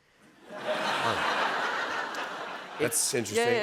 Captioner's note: laughter